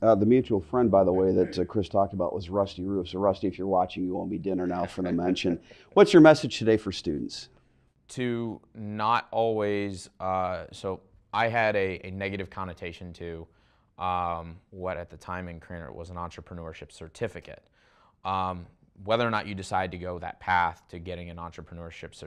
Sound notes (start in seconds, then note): 4.4 laugh